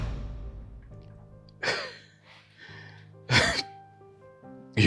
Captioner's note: scoffs